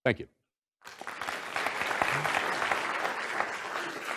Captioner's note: applause